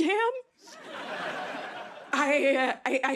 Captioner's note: laughter